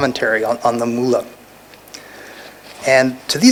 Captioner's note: non-english